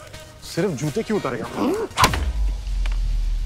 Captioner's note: Hitting the stick sound